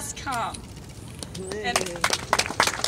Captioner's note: applause